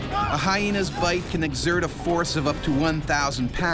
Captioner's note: voiceover